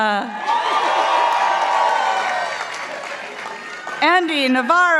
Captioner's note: participants applauding